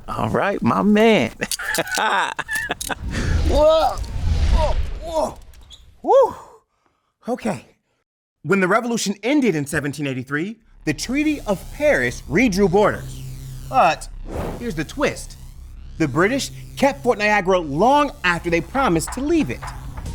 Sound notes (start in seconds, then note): 1.0 laughing